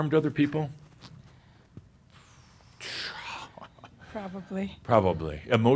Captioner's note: chuckles